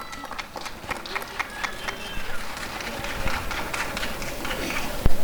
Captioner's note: applause and cheering